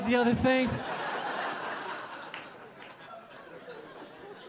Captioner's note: audience laughing